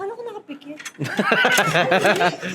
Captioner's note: laughs